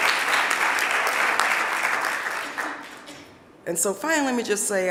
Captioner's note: audience applauding